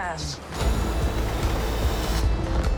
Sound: train car screeching

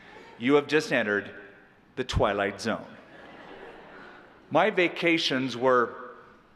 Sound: laughter

